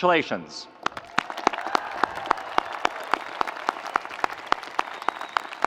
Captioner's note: audience applauding